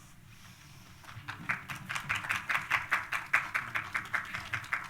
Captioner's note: applause